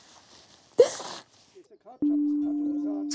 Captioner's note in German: Schluchzen